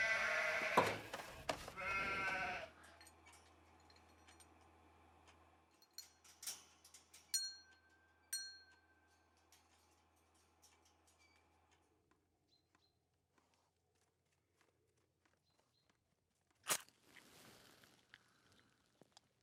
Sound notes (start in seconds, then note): 0.0 sheep bleating; 7.3 bell chiming; 12.3 bird chirping; 16.6 match striking